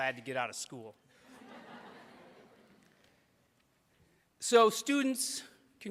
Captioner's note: audience laughs